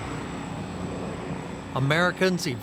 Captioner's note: engines whining; helicopter blades chopping